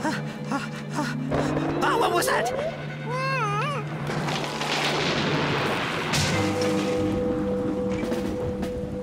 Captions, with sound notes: OH, WHAT WAS THAT?! ( Hamish Whining ) ( Cracking ) ( Crash! )